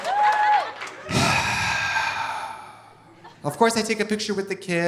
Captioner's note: Trixie sighs